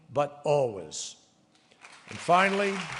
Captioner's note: applause